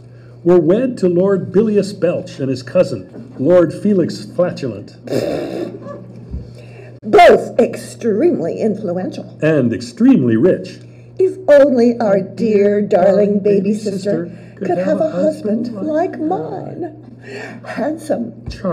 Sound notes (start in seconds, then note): 5.1 fart noise